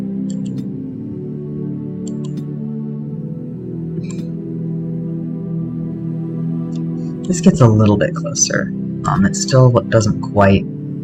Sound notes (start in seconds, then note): none